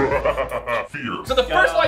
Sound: cynical laugh

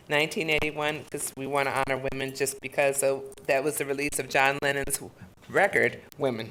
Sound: none

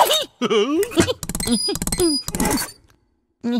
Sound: shattering; silly Noises; laughter

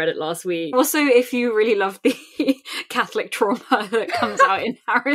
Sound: laughing

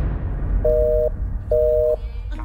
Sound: busy signal

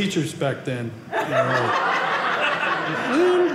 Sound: audience laughing

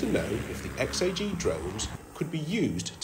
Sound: drone buzzing

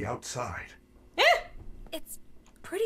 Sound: gasping

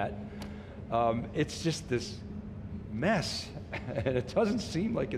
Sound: chuckles

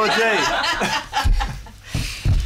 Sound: laughter

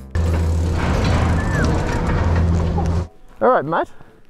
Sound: machinery churning

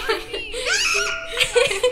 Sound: both laughing; screams in video

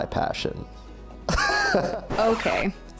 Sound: laughter

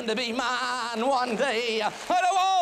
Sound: applause

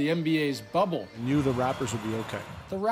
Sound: horns honking

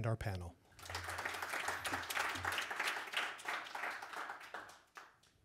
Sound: audience applauding

